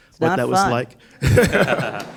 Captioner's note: laughter